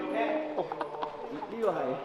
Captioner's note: laughs